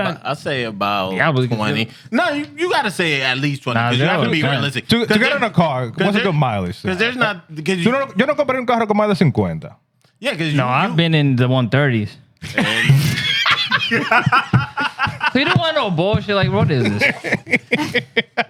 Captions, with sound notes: I'll say about 20. No, you got to say at least 20. Because you have to be realistic. To get it in a car, what's a good mileage? Because there's not-- (Speaking Spanish) No, I've been in the 130s. (Laughter) So you don't want to know, boy? I'm actually like, what is this?